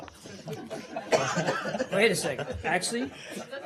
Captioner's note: laughter